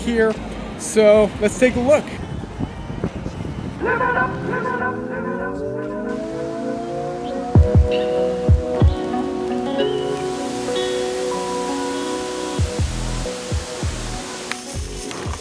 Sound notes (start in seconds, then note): 4.1 sounds of waterfall